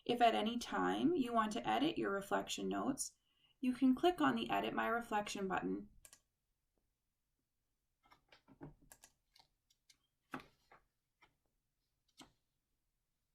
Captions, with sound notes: If at anytime you want to edit your reflection notes you can click on the edit my reflection button. [Click] [Click]